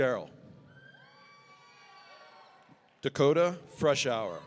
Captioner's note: audience cheering